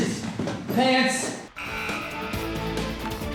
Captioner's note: goal buzzer